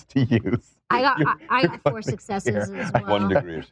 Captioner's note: laughs